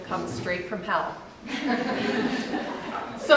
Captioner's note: audience laughs